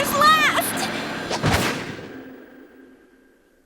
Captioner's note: thud